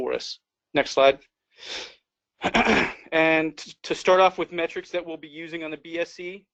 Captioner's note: cough